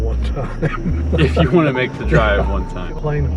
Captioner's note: chuckling